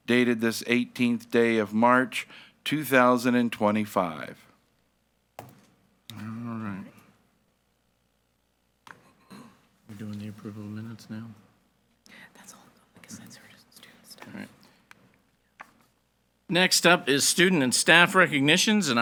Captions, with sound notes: dated this 18th day of March, 2025." - All right. We're doing the approval of minutes now. - That's all because that's (faintly speaking). - Next up is student and staff recognitions